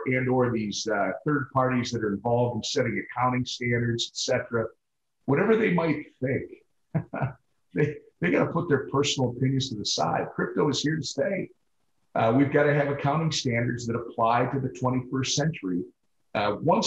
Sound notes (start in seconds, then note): 6.9 Tom chuckles